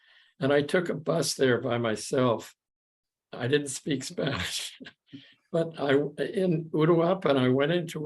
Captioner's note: chuckles